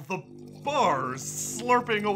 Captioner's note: magic crackling